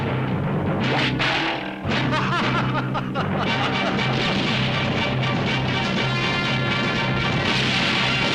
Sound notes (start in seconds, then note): 1.3 knife twangs; 1.9 Lucky laughing